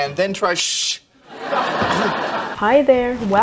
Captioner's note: laughing track